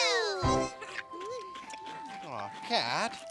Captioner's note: all munching